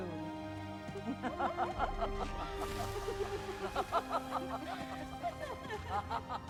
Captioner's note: laughing